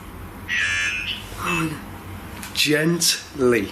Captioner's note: Ovilus alarm rings